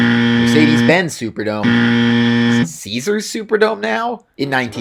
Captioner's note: wrong Buzzer